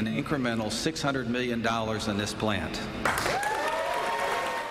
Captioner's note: applause